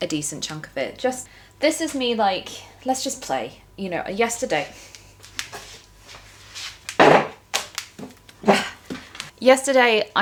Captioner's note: plonks stool down